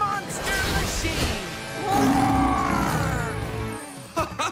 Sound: roaring

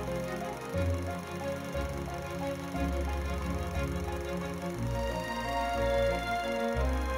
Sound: reel grinding; upbeat music

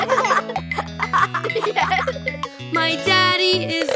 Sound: chuckling

